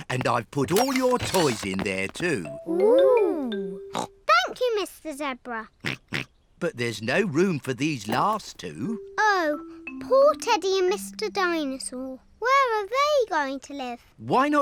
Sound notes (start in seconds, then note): 3.9 snorts